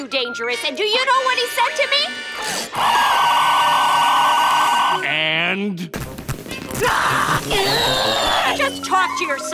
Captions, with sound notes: and do you know what he said to me? [harsh computer noise] And? [frustrated groaning] Just talk to your son!